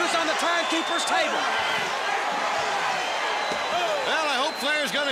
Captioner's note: crowd chatter